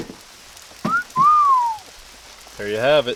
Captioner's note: whistling